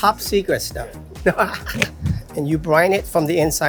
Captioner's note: laughing